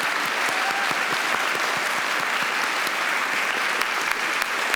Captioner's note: all applauding